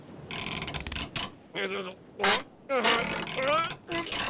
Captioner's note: muttering and straining